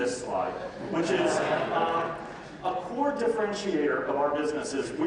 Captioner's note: audience laughs